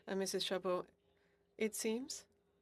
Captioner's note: speaking in French